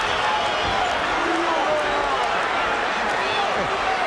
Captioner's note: audience shouting